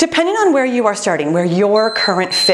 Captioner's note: timer beeping